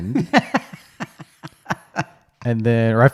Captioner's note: laughs